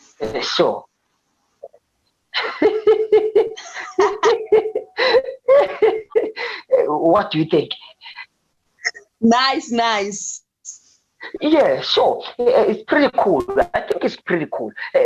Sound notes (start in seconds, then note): 2.3 both giggling